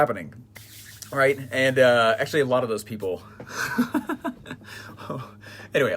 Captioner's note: laughs